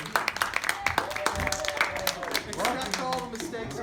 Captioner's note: applause